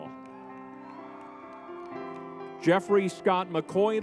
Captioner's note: crowd cheering